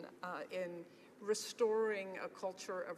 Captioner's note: speaking english